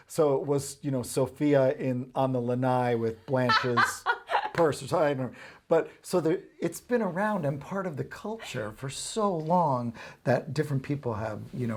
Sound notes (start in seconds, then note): 3.4 laughs